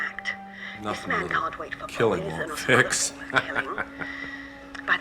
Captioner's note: chuckles